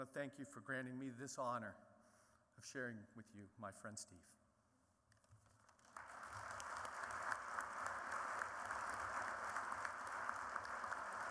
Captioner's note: applause